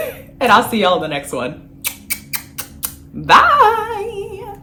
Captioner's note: kisses